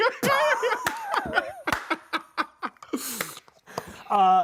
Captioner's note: both laughing